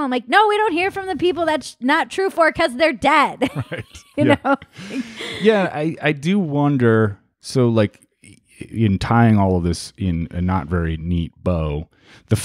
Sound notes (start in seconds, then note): 3.4 laughs